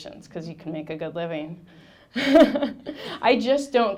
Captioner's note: laughing